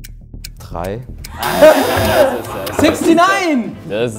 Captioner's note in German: Lachen